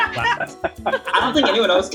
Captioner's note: laughing